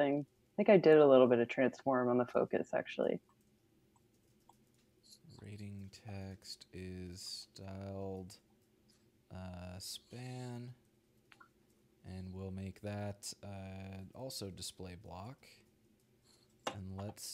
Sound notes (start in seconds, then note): none